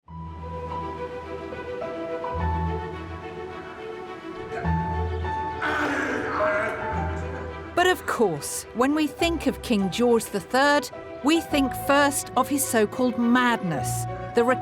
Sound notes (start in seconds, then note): 0.0 classical music; 5.5 grunting